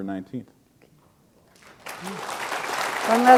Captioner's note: applause